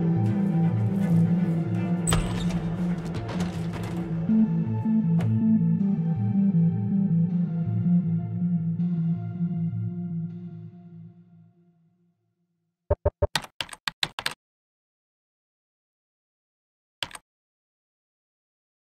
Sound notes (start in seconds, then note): 13.5 typewriter clacks